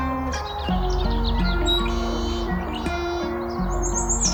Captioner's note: birds chirping